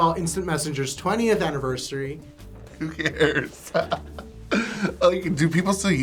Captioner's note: chuckles